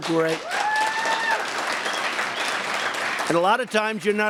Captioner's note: applause